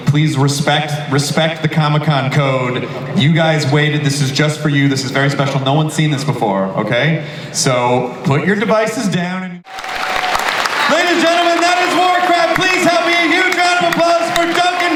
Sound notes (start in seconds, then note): 9.6 audience cheering